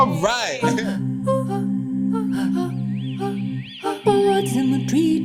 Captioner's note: birds chirping